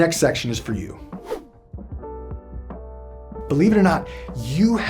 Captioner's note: whooshing